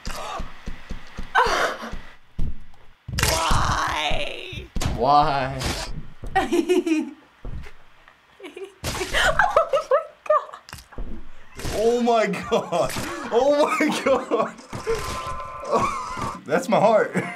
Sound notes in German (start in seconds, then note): 1.3 Schnappt nach Luft und lacht; 3.1 Knochen knirschen; 4.9 Nachahmend; 14.8 Track warbles; 17.1 Lacht